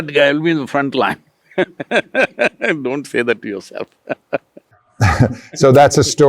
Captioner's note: laughs